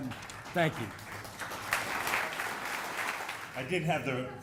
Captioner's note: audience applauding